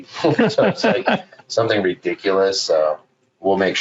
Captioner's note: laughing